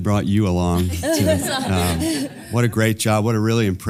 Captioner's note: laugh